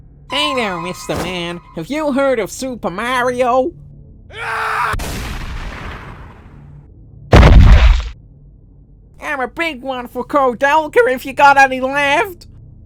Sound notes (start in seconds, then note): 4.5 he screams as he shoots himself